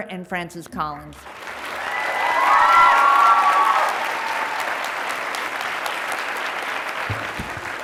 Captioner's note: graduates clapping; graduates cheering